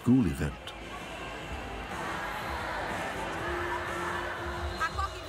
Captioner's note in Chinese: 掌声